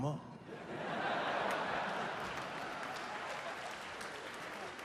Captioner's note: audience laughing